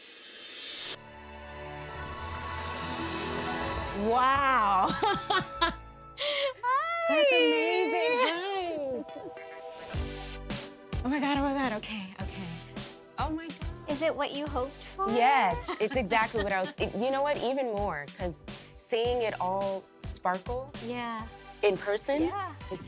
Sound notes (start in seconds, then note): 4.6 laughs